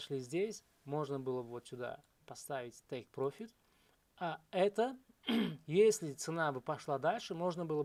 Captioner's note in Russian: откашливается